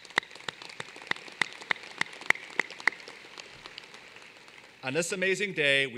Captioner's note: applause